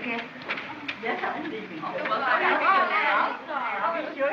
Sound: chattering

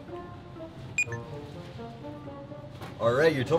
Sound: light music; scanner dings

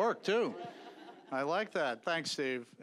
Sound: audience chuckling

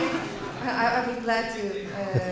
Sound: laughter

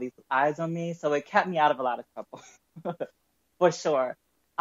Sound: chuckles

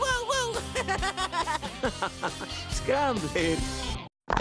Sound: laughing; bricks Clattering

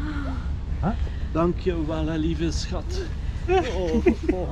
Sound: speaking in Dutch; laughing

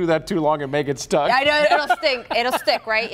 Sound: laughter

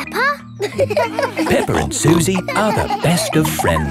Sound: all laughing

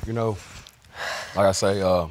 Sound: exhales

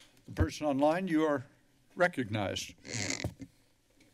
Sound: squeaky chair

